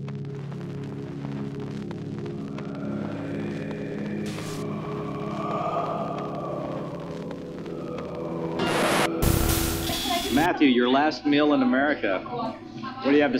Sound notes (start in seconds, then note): 1.8 ghostly moaning; 8.5 record scratching